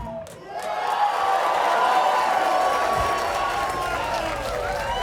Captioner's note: audience cheering